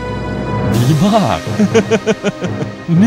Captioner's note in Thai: หัวเราะ